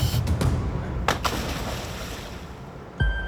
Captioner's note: diver splashes